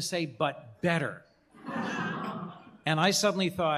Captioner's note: laughter